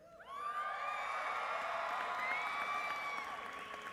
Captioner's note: cheering